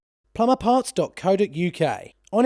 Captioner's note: voiceover